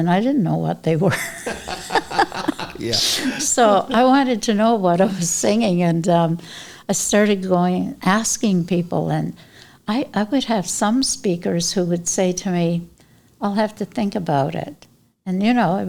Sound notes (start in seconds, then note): 1.0 laughter